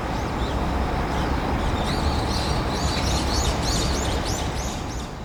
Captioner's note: birds noise